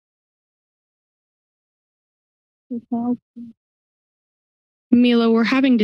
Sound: silence

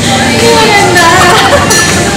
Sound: laughs

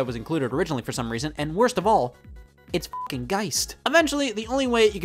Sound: beep

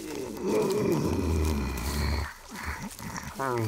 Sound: Noah grumbling

